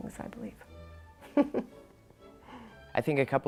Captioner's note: laughs